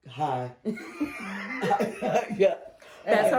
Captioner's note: laughter